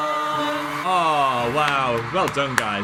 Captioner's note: audience cheering